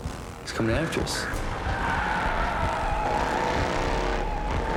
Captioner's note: traffic sounds